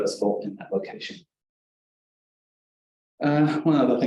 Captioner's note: pause